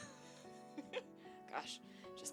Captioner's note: laughing